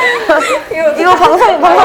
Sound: haha

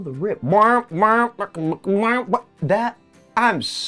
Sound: imitates trombone

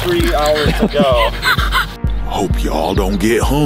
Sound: laughing

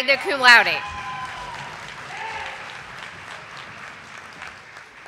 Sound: audience applauding

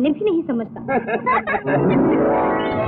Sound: laughs

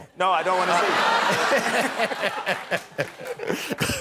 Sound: laughter

